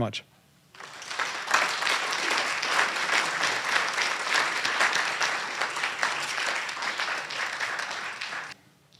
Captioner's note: applause